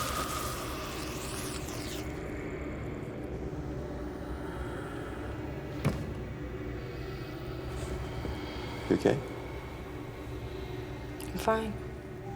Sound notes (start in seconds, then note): 5.7 thuds